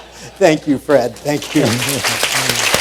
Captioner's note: applause